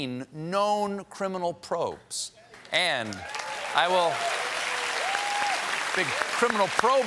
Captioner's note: applause